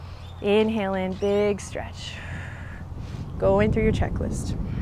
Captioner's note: takes deep breath